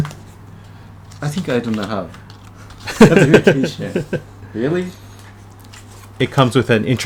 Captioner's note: both chuckle